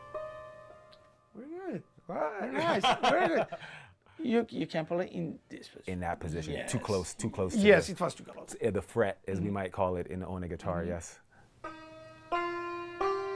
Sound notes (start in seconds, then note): 2.4 laughter; 11.6 plays notes